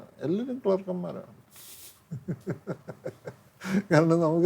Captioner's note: laughter